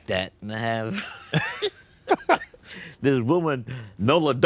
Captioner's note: both laughing